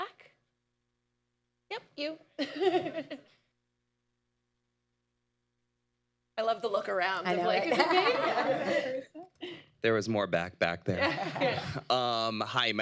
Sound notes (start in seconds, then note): 2.5 laughs; 8.6 laughter; 10.3 laughs; 10.9 laughter